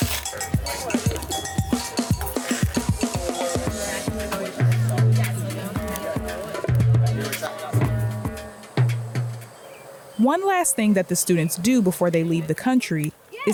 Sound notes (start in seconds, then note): 0.0 casual upbeat music; 3.8 people chatting